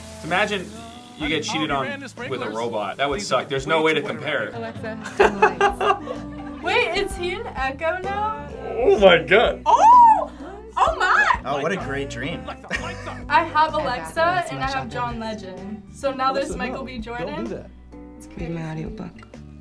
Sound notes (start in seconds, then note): 4.9 laughs